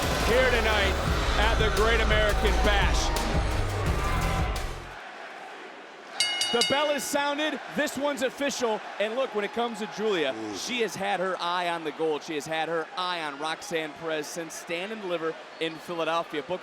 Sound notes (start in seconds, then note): 5.7 audience chanting; 6.2 bell rings